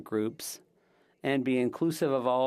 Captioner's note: speaking French